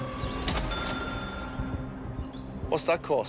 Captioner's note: cash register dings